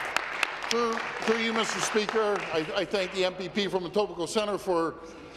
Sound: applause

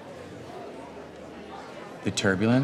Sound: crowd murmuring

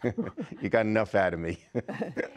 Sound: laughter

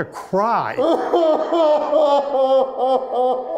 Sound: wailing

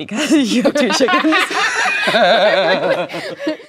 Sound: laughing

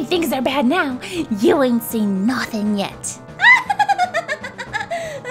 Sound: laughs

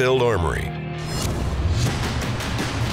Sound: whooshing

